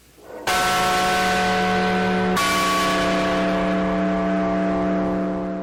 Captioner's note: bell ringing